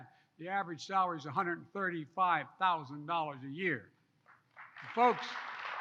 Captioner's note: applause